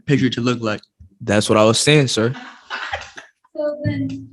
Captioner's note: laughing